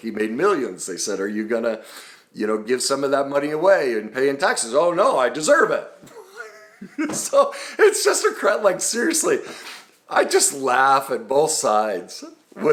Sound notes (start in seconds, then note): 6.0 chuckles